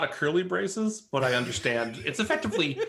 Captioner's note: laughs